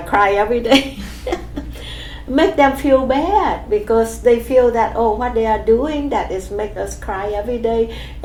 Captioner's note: laughs